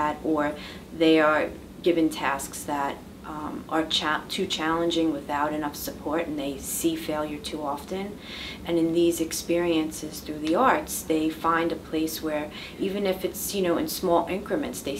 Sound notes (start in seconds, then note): none